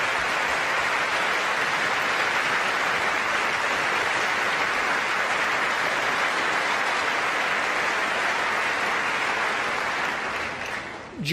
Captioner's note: applause